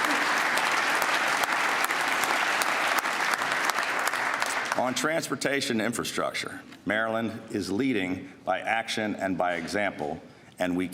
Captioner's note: applause